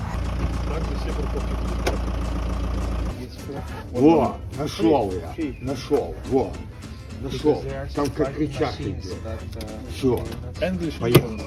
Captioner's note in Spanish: Rusos discutiendo